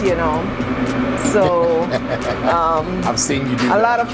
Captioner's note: laughs